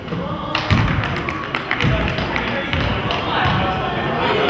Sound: crowd claps

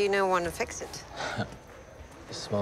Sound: chuckles

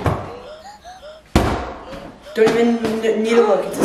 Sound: upbeat music; giant cube hits floor

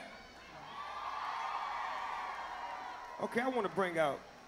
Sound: applause

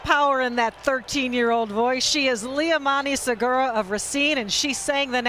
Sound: applause

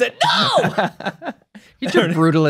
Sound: laughing

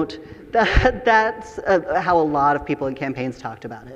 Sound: chuckles

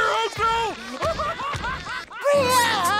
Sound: laughing

